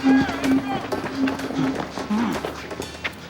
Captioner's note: footsteps; indistinct chatter